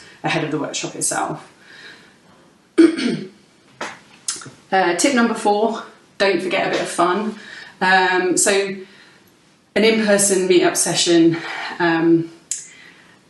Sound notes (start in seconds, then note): 2.8 clears throat